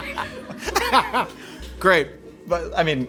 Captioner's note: laughing